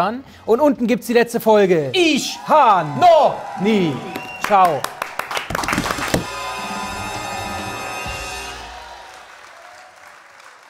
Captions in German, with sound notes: Und unten gibt's die letzte Folge ... - Ich ... Hab ... - Noch ... Nie. - Ciao! (Jubel, Applaus)